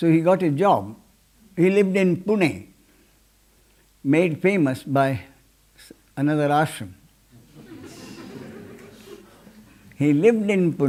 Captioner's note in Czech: smích